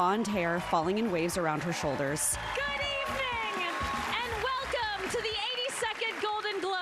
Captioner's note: applause